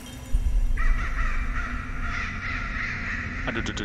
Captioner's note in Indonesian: suara gagak